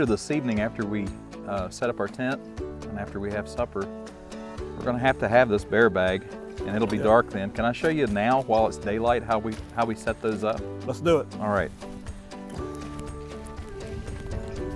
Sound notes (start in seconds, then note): 7.4 contents rattling